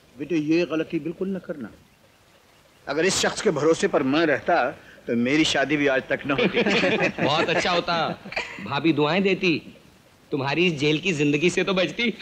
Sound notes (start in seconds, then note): 6.1 laughs